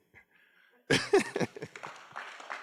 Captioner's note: laughs; applause